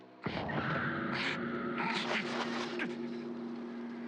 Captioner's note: screams